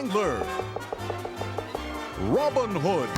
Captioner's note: knocking